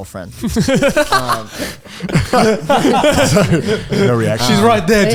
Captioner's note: all laughing